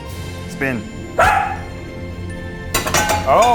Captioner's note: dog barks